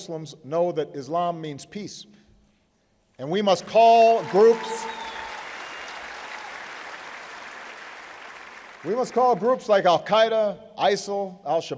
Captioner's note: applause